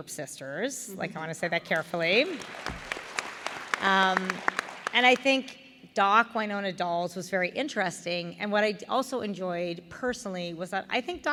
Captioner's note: applause